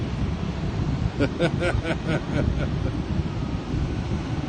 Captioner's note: laughter